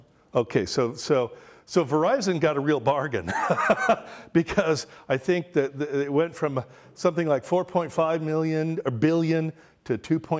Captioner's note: laughs